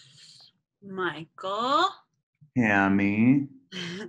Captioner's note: laughter